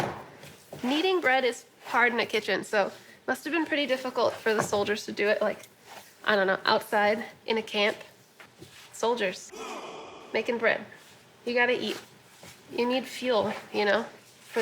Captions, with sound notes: Kneading bread is hard in a kitchen, so it must have been pretty difficult for the soldiers to do it like-- I don't know, outside in a camp. Soldiers-- [grunt] --making bread. You got to eat. You need fuel, you know, for the fight.